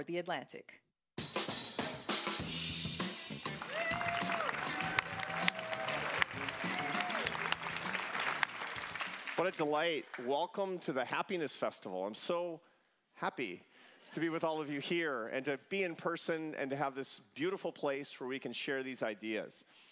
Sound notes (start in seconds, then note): 6.0 cheers & applause